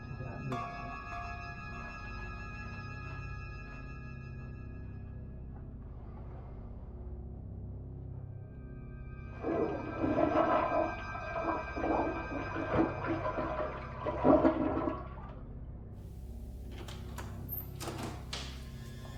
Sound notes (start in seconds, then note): 9.3 toilet flushes